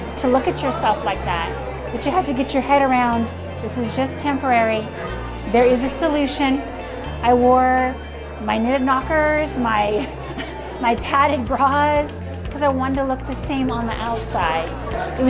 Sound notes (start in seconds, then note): 10.1 laughs